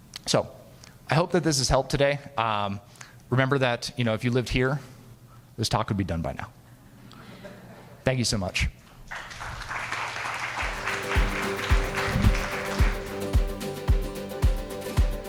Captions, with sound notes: So I hoped that this has helped today. Remember that if you lived here, this talk could be done by now. (audience laughing) Thank you so much. (audience applauding) (uptempo guitar music)